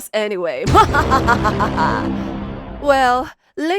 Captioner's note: evil laugh